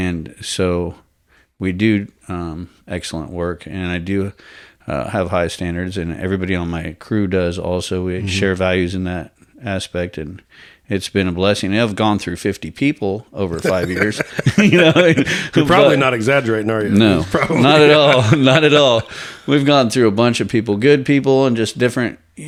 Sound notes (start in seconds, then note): 13.5 laughs